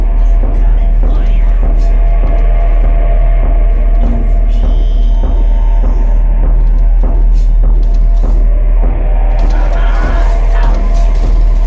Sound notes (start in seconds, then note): 5.2 footsteps and scrape grow louder